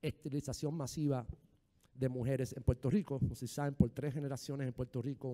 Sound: speaking in foreign language

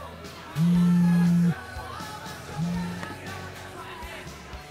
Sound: phone vibrates

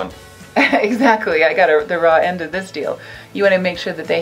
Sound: laughs

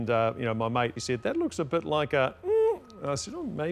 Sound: hums suggestively

